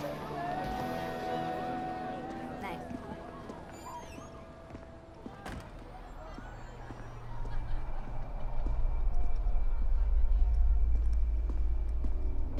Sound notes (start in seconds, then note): 5.4 door closes; 7.0 ominous music